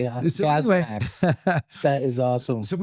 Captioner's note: laughs